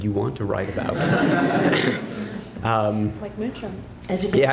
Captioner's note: laughter